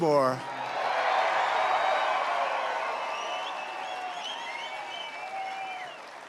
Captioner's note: applause